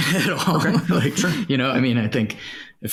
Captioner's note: laughs